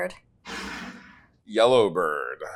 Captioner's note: bottle scrapes